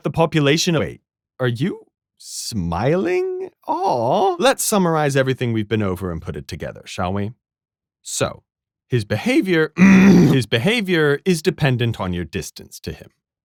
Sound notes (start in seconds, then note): 9.0 voice crack; 9.8 ahem